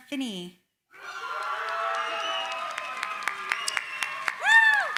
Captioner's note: cheering, applause